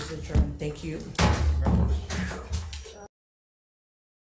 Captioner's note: gavel banging